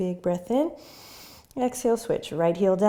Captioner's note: inhaling